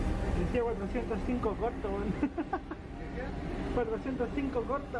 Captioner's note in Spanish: risas